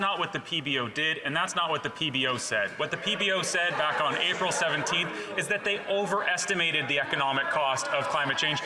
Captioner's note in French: voix de l'interprète